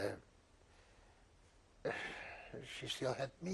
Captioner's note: sighs